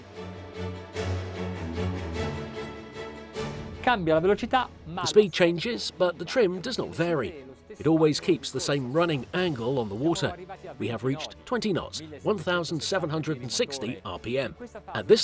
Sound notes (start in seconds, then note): 0.2 upbeat music; 4.0 speaking in foreign language